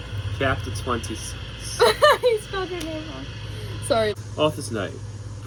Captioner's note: laughs